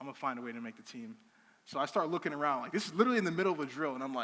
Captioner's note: none